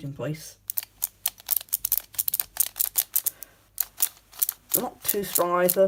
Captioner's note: general clickyness